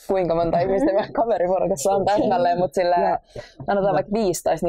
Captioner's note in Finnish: kaikki nauravat